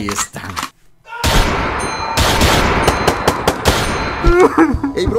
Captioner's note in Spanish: Sonido de aldeanos gritando y disparos